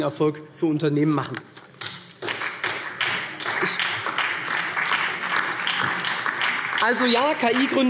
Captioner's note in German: Beifall SPD